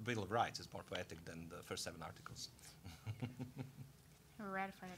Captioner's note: laughing